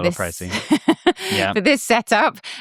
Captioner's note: laughs